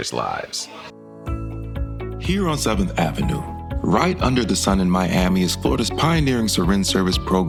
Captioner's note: voiceover